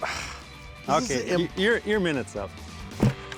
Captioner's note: sighs; thud